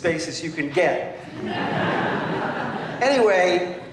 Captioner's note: laughter